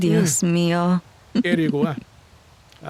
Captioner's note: in Spanish